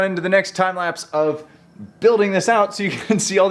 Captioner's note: chuckles